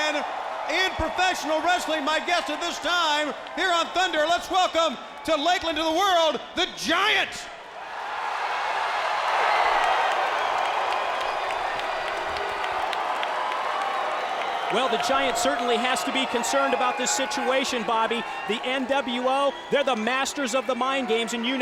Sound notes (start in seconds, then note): 10.5 crowd cheering